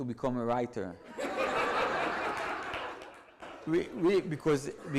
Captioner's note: audience laughs